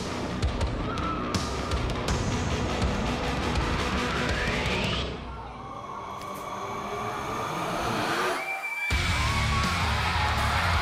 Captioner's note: crowd cheering